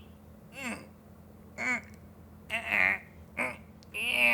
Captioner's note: grunting